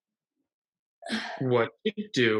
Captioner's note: Ashley grunts